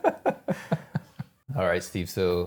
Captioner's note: both laughing